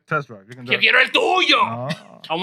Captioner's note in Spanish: Hablando en idioma extranjero